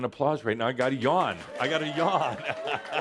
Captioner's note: audience applause